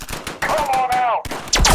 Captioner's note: return fire hits the assassin droids and "spangs" off their armor